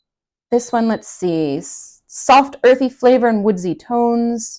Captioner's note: samovar beeping